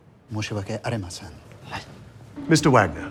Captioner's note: chef speaks foreign language